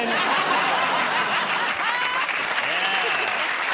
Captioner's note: applause